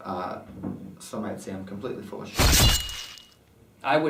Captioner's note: clanging swords